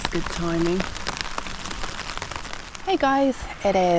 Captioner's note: rain